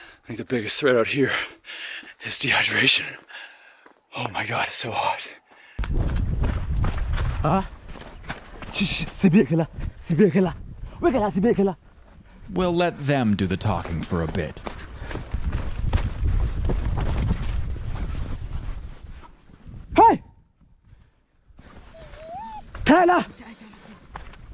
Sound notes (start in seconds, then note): 9.3 hunter speaking native language; 20.3 hunter speaking native language